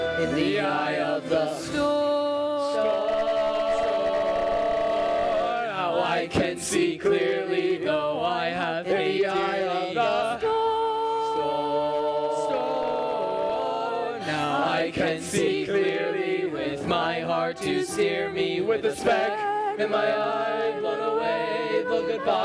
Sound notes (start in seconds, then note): 4.7 storm; 13.1 storm